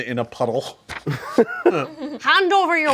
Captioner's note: group laughs